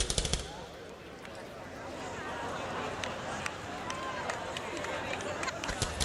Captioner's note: laughter and cheering